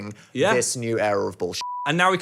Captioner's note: beep